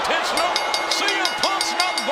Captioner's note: bell rings